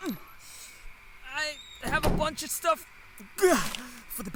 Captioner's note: door closes; door opens; grunts; plastic ruffling